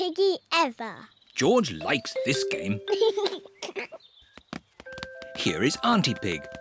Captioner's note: giggles